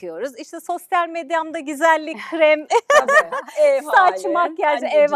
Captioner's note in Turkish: kahkaha